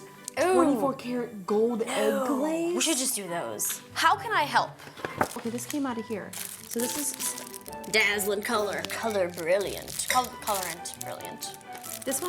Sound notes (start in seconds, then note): none